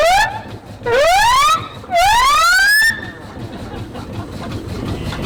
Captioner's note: steam siren wailing